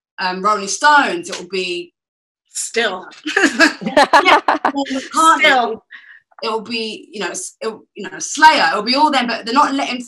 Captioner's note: laughter